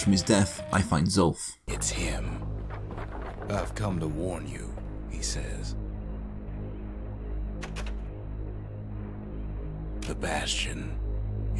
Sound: in-game audio

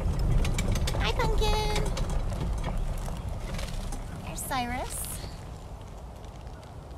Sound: cart sounds

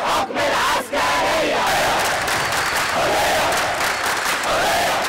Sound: chants

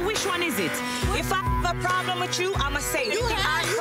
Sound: beep

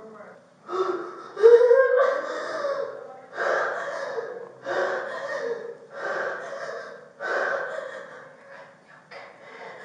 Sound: hyperventilating; crying; whispering

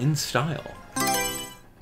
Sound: Mario Selection Sound

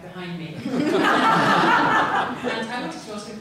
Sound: laughter

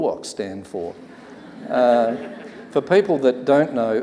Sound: audience laughs

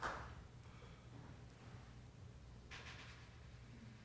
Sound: applause

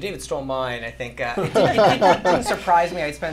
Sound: laughter

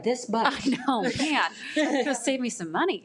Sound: laughing

